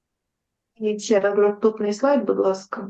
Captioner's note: foreign Language